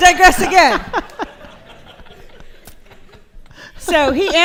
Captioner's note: laughter